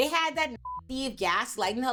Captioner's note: beep